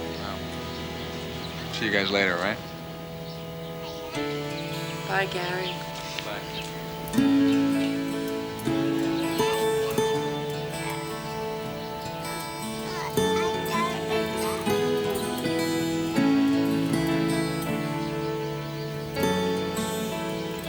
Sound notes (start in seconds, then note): 12.8 Janey babbling